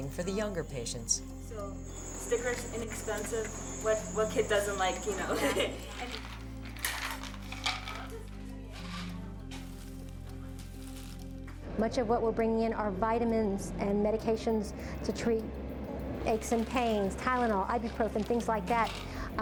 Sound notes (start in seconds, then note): 5.1 chuckles; 5.6 pills clanging; 9.4 plastic crunching